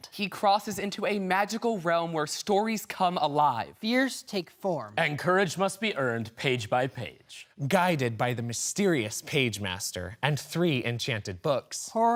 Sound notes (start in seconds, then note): none